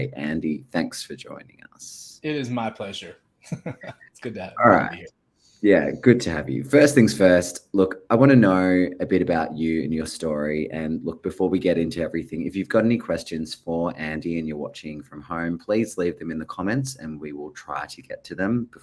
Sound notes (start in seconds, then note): 3.5 laughs